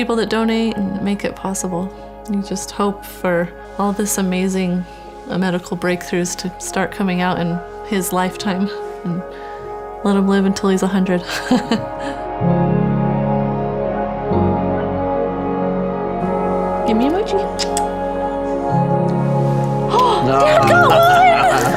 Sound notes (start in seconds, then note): 11.3 laughs; 17.5 lips smack; 19.8 gasps; 20.2 laughs